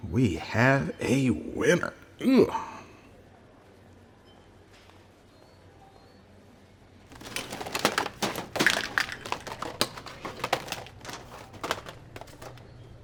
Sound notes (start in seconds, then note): none